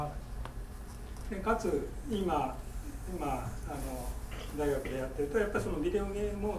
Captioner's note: speaking in foreign language